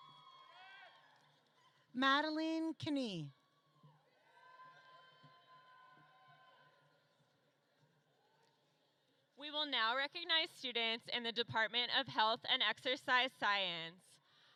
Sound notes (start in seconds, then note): none